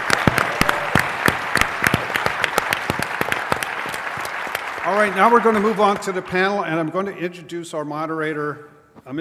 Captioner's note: applause